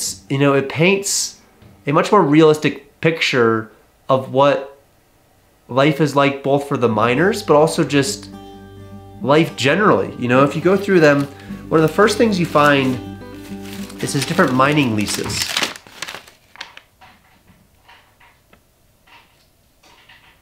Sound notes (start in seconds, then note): 15.4 paper rustling; 16.9 thudding on wood floor